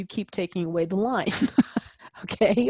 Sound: laugh

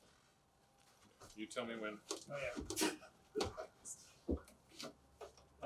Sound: chuckles

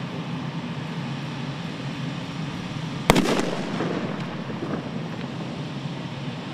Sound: machine hum with explosive boom

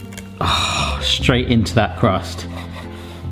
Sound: sighs

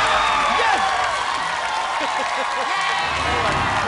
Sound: laughs

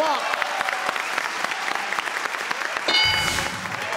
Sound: applause

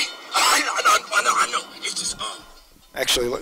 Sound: voiceover

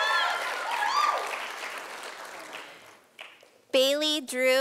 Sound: sound of applause from audience

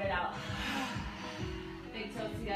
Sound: sighing

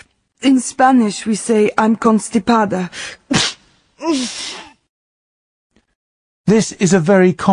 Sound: she sneezes

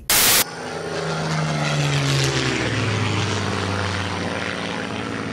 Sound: airplane engine humming

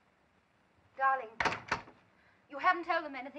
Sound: door closes

